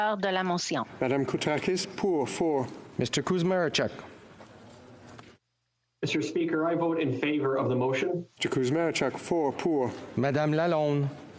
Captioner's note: speaking FRENCH